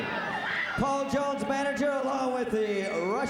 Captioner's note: crowd chatter